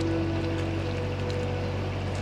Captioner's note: water splashing